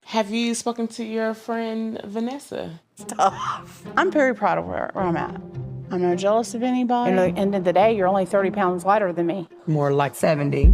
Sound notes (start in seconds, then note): 3.3 laughs; 3.5 anxious music